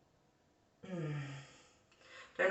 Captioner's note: sigh